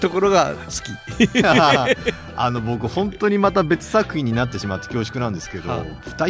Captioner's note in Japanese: 笑い